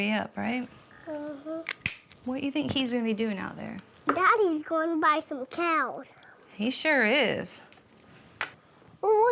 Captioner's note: none